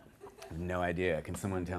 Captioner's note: laughter